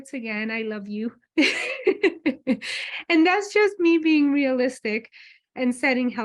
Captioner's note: laughs